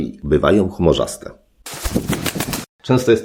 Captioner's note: wings flap